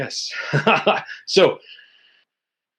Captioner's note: chuckles